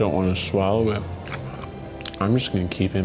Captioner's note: chewing sounds